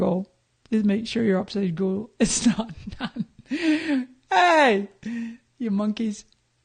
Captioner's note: laughing